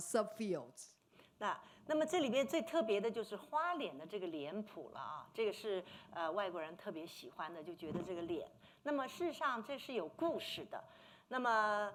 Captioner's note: speaking Mandarin